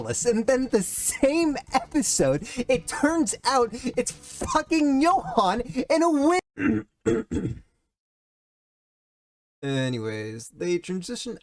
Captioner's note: clears throat